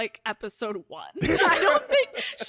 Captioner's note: laughs